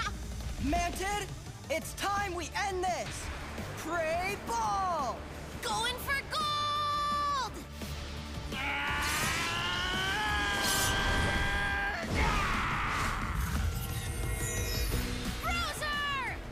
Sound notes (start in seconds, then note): 8.5 screaming